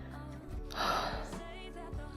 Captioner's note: Sigh